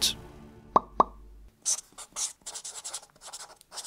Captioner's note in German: Ploppgeräusche, Stiftekritzeln